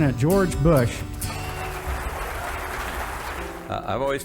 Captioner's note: audience applauding